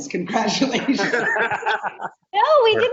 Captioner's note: laughing